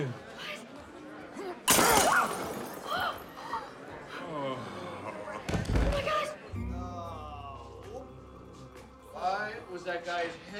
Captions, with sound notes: - What? (fighting sounds) (glass shattering, Reena screaming) (groaning, thud) - Oh, my gosh! (groaning) - Why was that guy's head so hard